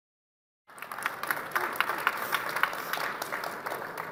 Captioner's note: audience applauds